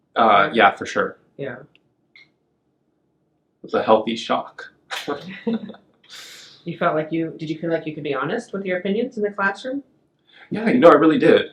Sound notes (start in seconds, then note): 4.9 laughs